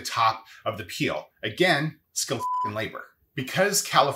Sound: beep

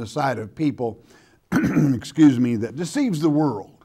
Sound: coughing

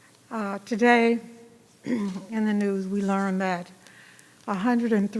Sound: clears throat

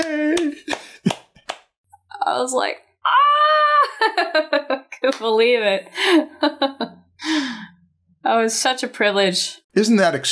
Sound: laughter

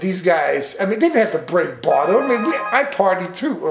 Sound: phone rings

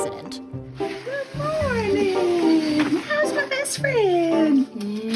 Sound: kissing

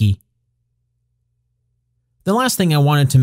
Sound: pause

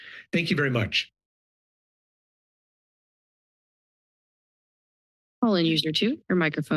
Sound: silence

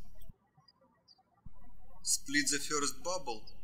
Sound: birds chirping

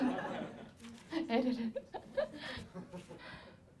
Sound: laughs

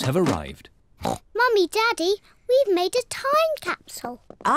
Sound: oinks

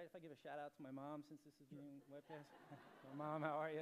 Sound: laughter

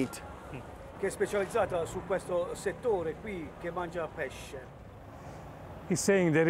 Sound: speaking Italian

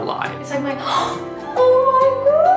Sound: gasps

